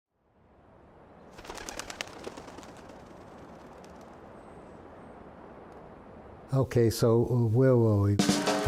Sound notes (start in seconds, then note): 1.3 bird wings flapping